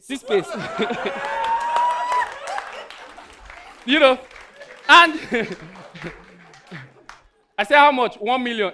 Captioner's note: audience laughing